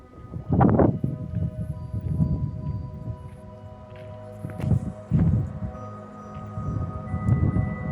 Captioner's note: wind; bell